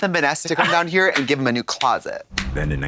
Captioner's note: Katya tee-hees and slaps